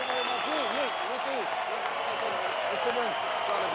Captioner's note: people cheering